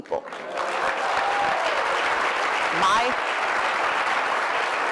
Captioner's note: cheering